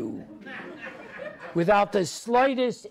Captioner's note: audience laughs